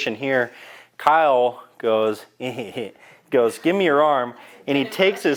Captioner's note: chuckles